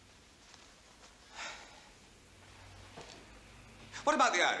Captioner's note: sighs